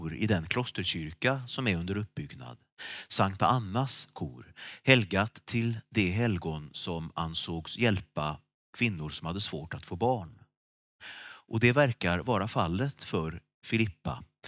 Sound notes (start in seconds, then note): none